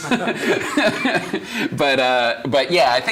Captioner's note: laughing